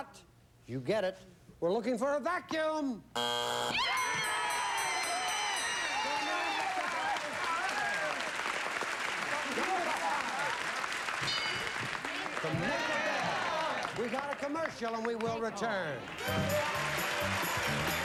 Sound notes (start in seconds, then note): 3.1 buzzer; 5.4 cheering, applause, and indistinct chatter